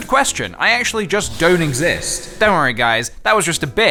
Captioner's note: woosh sound as seemingly evaporates